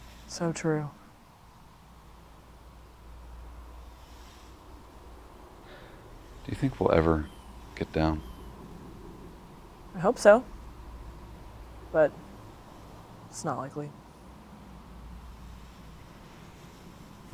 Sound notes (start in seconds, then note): 3.5 wind howling